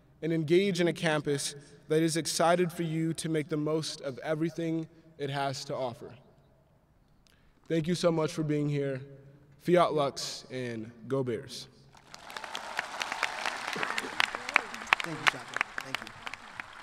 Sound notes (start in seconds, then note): 11.9 audience clapping